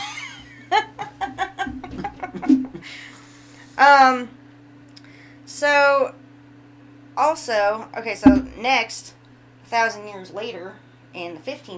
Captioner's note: laughing